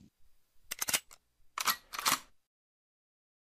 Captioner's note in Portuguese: Arma sendo recarregada